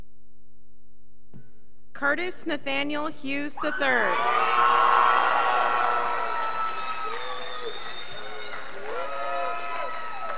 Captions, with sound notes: Curtis Nathaniel Hughes III, (scholars applauding)